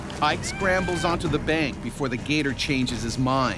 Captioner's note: voiceover